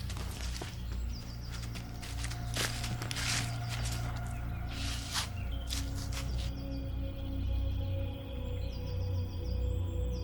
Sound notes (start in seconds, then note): 0.0 footsteps thumping; 6.8 tense foreboding music